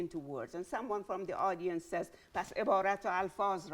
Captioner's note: speaking in Farsi